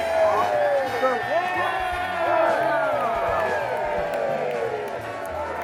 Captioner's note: crowd Cheers